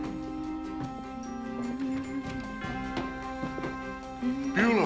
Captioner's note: Bonnie humming; footsteps padding and door opens